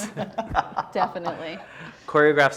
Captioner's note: man laughing; laughs